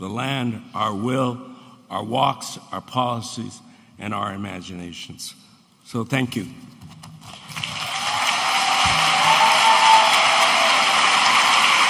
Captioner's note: audience applauding